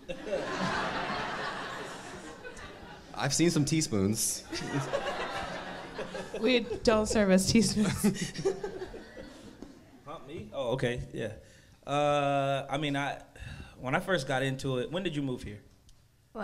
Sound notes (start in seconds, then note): 0.0 crowd laughs; 4.5 laughs